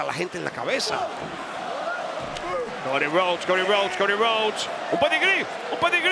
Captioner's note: applause